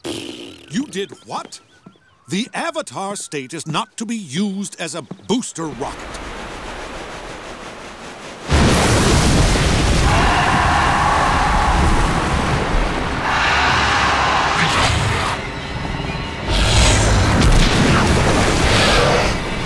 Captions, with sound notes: You did what? The Avatar state is not to be used as a booster rocket. [roaring] [roaring] [growling]